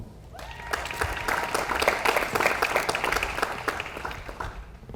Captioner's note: audience applauds